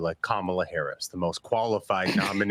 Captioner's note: laughter